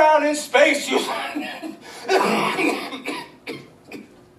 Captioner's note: coughing fit